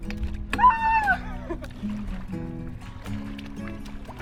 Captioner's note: screaming